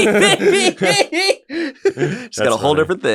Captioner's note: laughs